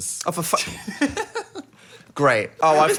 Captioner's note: laughing